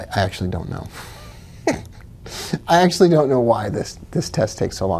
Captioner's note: giggling